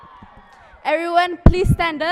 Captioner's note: cheering